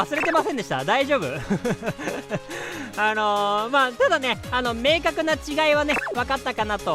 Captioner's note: laughs